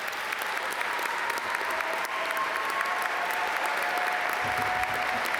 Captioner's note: audience cheer and applaud